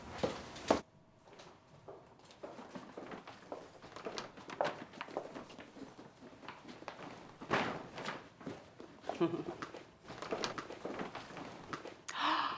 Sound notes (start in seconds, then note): 0.2 bags crinkling; 1.2 footsteps pattering; 6.9 bags thud; 9.0 Becky giggles; 12.0 gasps